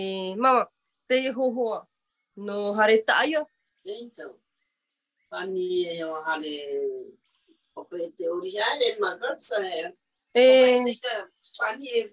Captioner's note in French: et sa mère parlent paumotu